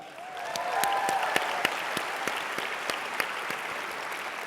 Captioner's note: audience applauds